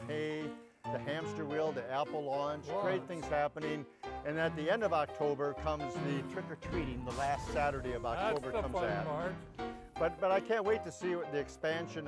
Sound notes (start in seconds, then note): 7.1 flames sizzling